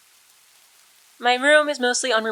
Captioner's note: return of rain sounds